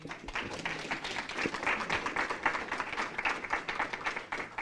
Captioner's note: applause